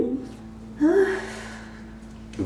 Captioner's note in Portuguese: suspira